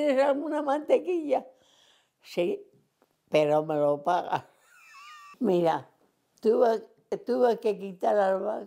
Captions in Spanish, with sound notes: alguna mantequilla?". "Sí, pero me lo pagas". [Ríe]. Mira tuve que quitar las vacas, y